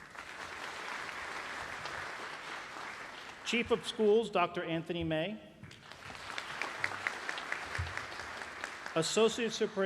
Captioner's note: applause